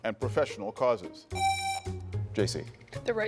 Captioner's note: buzzer rings